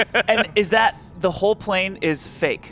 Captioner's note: laughs